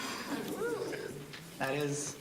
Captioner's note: audience chuckling